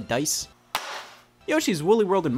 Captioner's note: case thuds